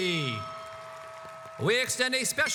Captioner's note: audience applauds